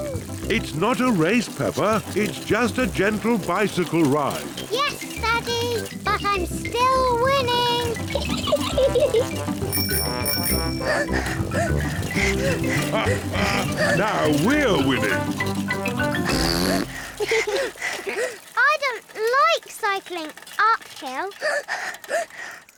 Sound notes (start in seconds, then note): 7.9 giggles; 9.7 rings bell and pants; 12.1 chuckles; 16.1 blows raspberry and giggles; 21.4 panting